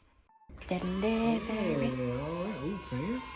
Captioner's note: kids cheering